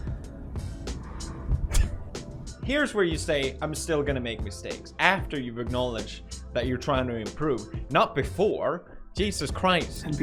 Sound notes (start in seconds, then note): 0.8 slow exhale